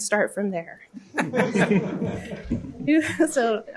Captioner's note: laughter